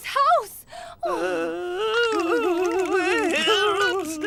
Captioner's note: men shuddering